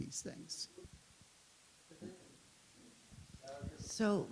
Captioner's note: audience chatters